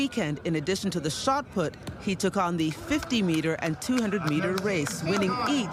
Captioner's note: applause